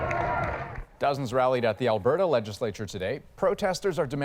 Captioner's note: cheers and Applause